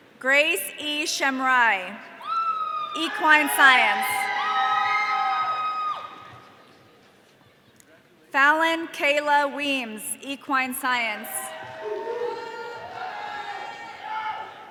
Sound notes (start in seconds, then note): 4.0 audience cheering; 11.1 audience cheering